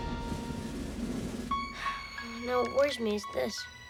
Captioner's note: sighing